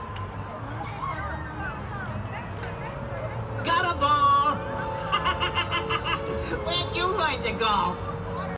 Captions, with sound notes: Gutterball! (Evil Laughter) Where's your mind at golf?